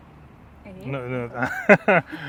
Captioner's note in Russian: заикается; оба смеются